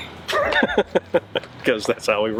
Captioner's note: laughs